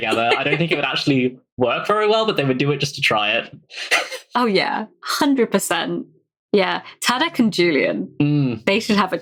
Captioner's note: laughs; laughs